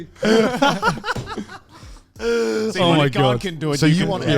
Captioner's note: laughing